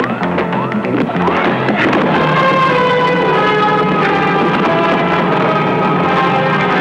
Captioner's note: whacking; dramatic music